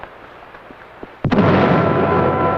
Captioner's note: explosion